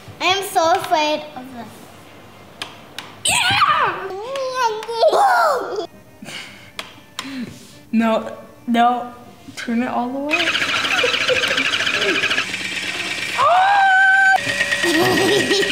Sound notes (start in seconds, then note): 3.2 yells; 10.3 dog rattles